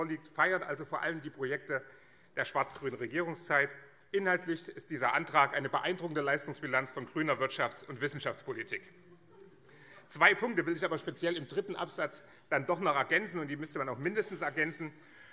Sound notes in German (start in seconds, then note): none